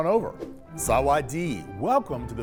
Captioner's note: speaking in a foreign language